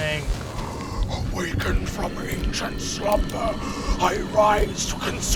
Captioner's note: growling